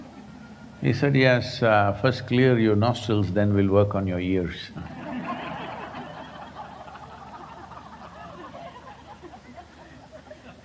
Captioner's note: laughter